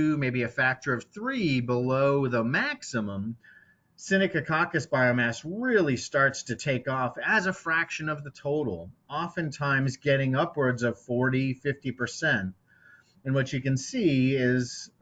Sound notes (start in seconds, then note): none